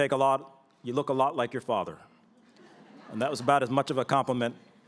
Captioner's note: laughter